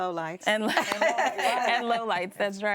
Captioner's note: people laughing